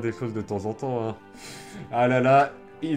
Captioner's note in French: inspire de l'air